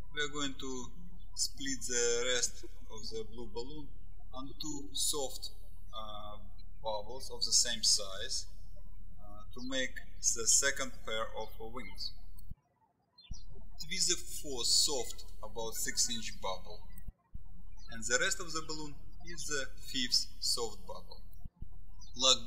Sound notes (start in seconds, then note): 13.0 birds chirping